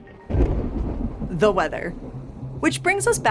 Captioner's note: thunder booming